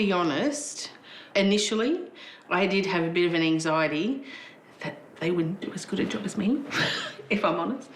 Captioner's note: laughs